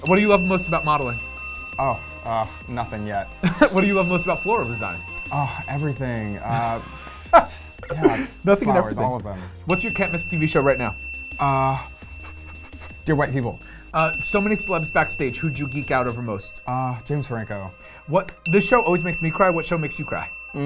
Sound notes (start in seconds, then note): 3.4 laughs; 7.8 laughing